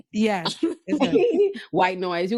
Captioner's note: laughing